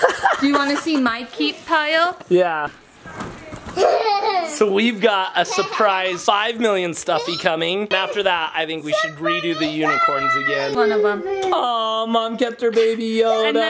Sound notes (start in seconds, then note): 0.0 person laughing; 3.7 child laughing; 11.8 children exclaiming